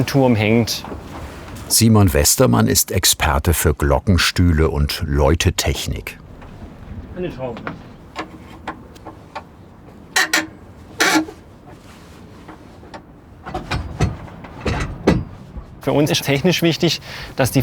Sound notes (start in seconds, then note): 7.2 mumbling; 9.8 creaking